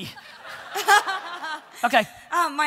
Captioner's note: audience laughter